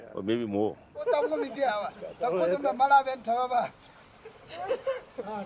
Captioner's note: speaking in foreign language